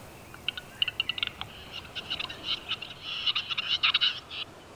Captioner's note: bird croaking